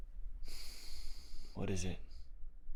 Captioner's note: sighs